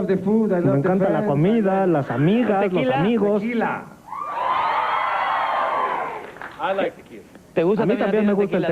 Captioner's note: applause